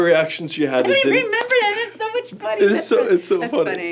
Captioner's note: laughs